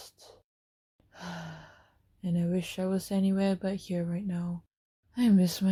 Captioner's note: sigh